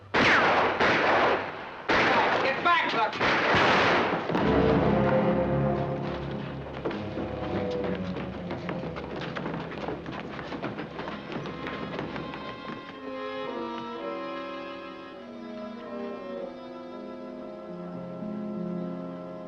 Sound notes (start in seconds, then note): 0.1 gunshots; 3.5 gunshot; 4.3 dramatic music; 6.6 scrambling footsteps; 13.0 somber music